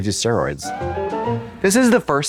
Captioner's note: bright chime